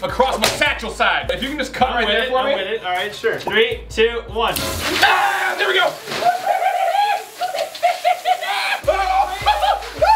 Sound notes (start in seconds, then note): 4.5 water spraying; 6.1 screams; 6.9 squealing; 7.1 laughter